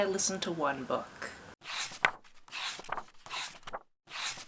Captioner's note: pages turning